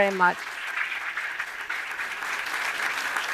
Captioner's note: applause